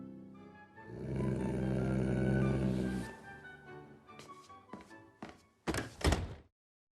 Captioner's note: light playful music; dog growling